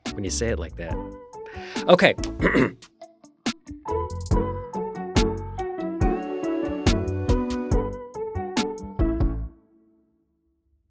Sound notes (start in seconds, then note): 2.3 coughing; 3.4 upbeat music